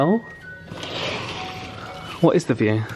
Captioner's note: curtain rail clacks